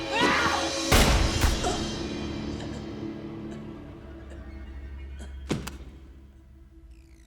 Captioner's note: Innocence shouts; gunshot fires; Innocence grunts, whines